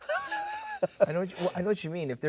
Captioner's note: Pedro laughing